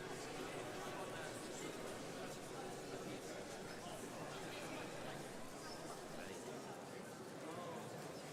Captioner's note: crowd talking, chatter